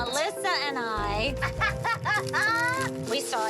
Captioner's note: laughter